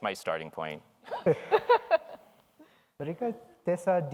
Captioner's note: all laughs